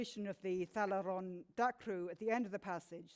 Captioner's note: speaks in foreign language